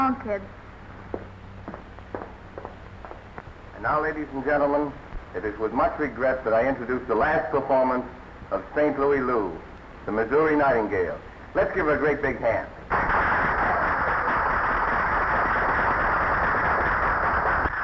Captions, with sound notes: So long, kid. - And, now ladies and gentlemen, it is with much regret that I introduce the last performance of St. Louis Lou, the Missouri Nightingale. Let's give her a great big hand. (audience applauding)